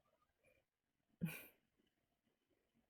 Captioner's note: chuckles